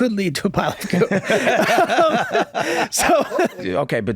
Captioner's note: laughing